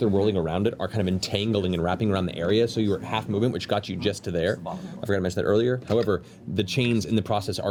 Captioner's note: none